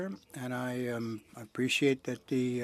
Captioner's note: speaking French